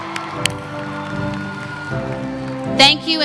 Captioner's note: cheering